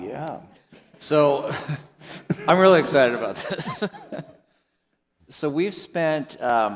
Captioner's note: chuckles